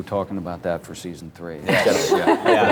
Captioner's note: laughter